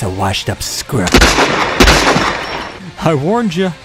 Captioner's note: gunshots